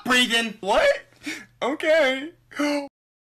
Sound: sigh

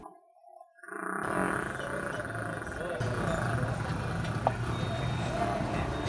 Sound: queefing noise

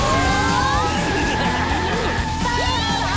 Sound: laughing

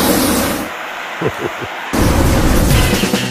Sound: chuckles

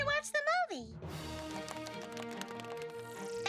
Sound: applause

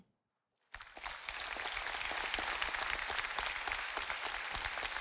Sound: audience applauding

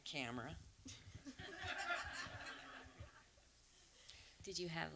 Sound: audience laughs

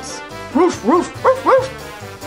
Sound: dogs woof

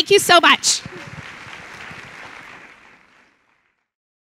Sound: clapping

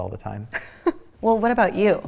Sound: laughing

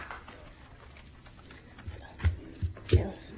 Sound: applause

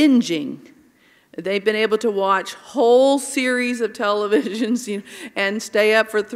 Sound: laugh

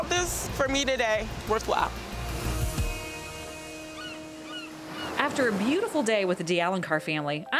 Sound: seagull crying

